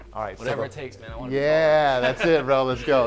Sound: laughs

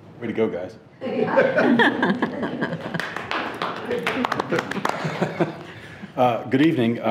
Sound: trustees laughing; clapping

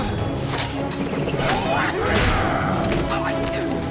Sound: grunting

